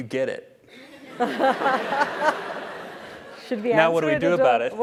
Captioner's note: laugh